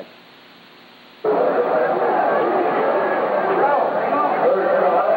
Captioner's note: crowd